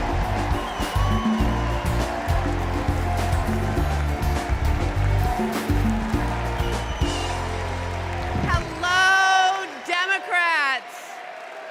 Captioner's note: cheers and applause